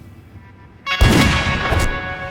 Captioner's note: gunshot